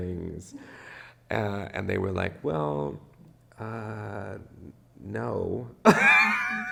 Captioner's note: laughs